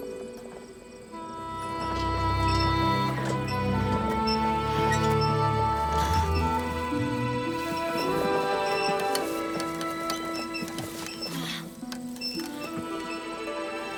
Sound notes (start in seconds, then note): 2.7 wheels squeaking; 6.3 sighs; 11.5 groans